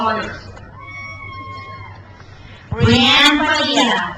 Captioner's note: crowd cheers